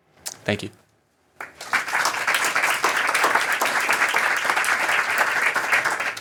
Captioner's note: applause